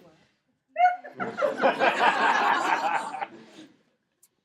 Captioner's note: laughing